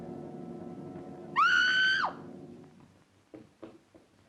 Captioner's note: screams